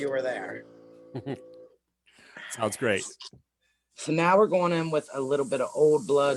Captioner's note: chuckles